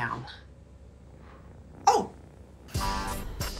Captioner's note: purring